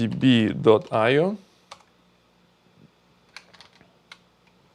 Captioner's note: keyboard clicking